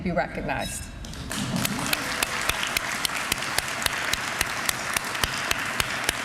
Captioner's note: applause